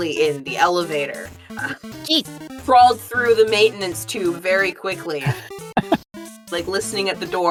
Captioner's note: HANS chuckles